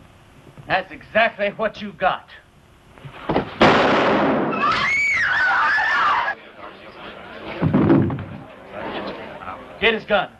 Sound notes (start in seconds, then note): 3.5 gunfire; 4.5 screaming